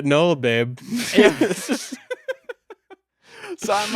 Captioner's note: both laughing